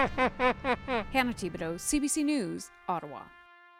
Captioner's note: laughter